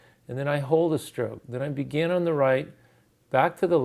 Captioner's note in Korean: 숨쉬기